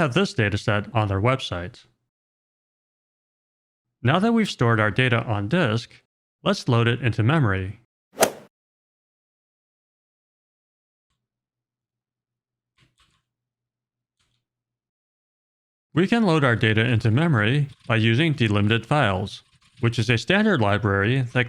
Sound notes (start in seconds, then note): 8.1 golf swing sound effect